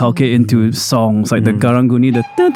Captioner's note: mimics Karung Guni's horn